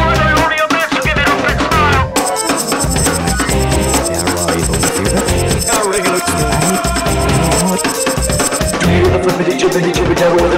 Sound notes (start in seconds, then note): 2.3 reversed